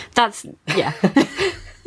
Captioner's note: laughing